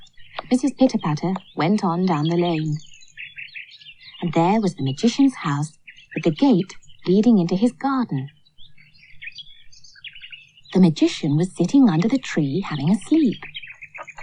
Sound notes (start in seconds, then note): none